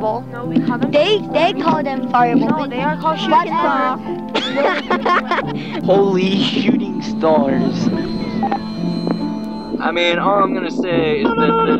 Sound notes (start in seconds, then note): 4.2 kids Laughing